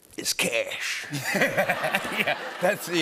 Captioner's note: laughter